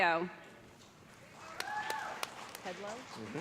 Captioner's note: applause